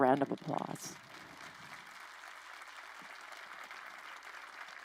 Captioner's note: crowd applauding